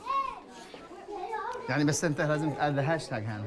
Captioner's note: non-english speech